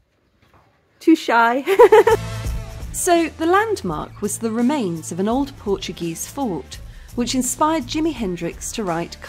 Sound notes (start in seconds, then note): 1.6 laughing